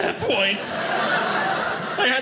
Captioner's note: audience laughing